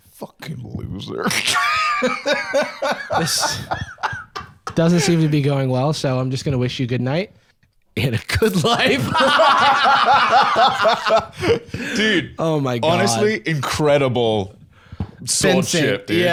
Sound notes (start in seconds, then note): 1.3 laughs; 8.4 both laughing